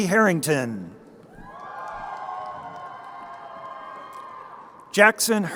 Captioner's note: crowd cheering